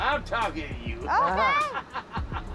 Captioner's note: laughs